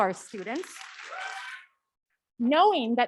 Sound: audience clapping

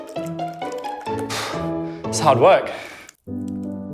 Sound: huffs; slow classical music

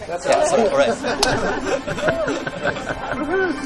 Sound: laughter

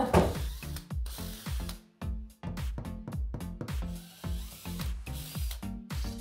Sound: drilling and hammering; upbeat electronic music

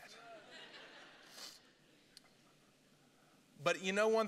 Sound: congregation laughing

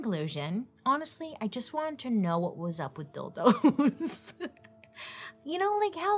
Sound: laughs

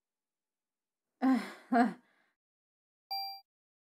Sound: nervously laughs

